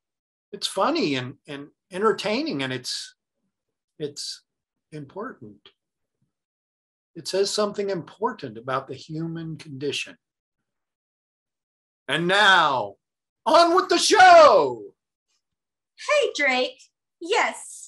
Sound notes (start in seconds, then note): none